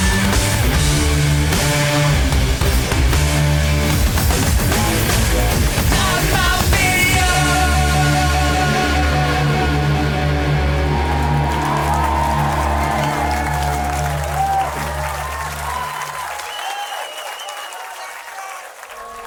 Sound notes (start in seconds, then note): 11.3 audience cheers and applauds